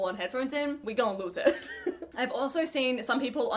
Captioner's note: laughing